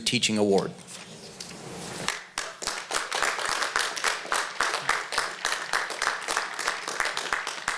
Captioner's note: applause